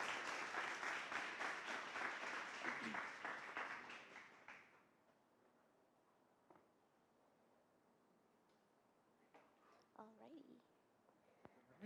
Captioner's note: applause